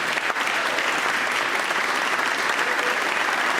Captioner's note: applause